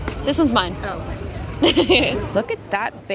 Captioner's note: laughs